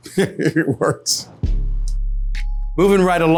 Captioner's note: laughs